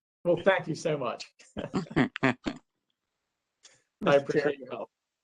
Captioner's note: laughter